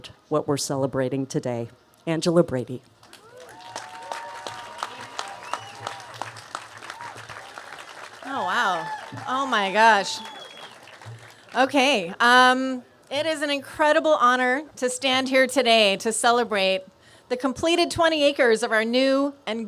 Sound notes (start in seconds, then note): 3.0 applause